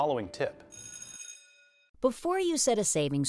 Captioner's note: buzzer rings